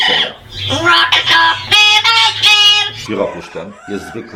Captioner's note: parrot is singing